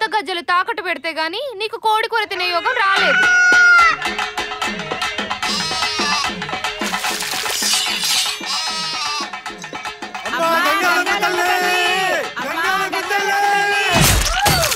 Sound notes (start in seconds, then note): 3.4 hen clucks; 5.4 goat bleating; 7.8 goat bleating